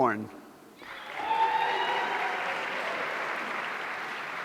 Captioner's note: audience cheering